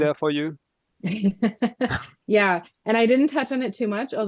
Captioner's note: laughs